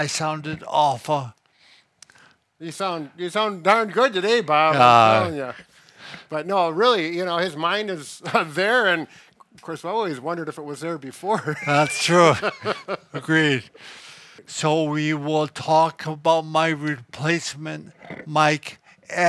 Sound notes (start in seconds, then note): 11.3 laughs